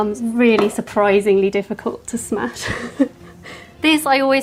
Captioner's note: chuckles